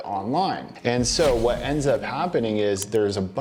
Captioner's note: air whooshing